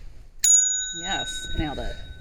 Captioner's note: ringing bell